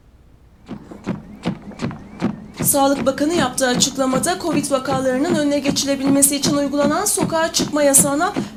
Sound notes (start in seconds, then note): 0.7 treadmill sound